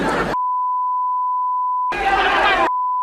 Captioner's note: beep